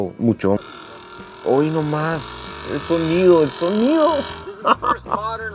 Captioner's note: engine roaring